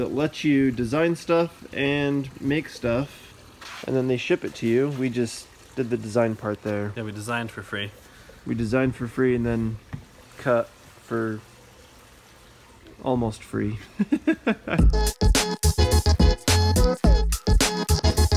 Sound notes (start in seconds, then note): 13.9 laughing; 14.8 hip hop music